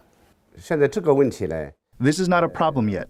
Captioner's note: speaking foreign language